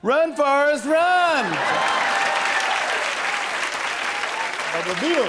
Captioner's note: laughter and applause